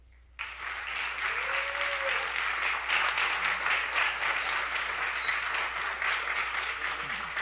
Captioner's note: applause